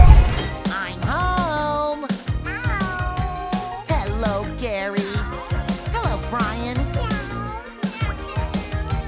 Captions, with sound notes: I'm home! [meows] Hello, Gary. Hello, Brian.